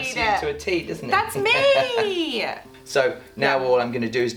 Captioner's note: laughing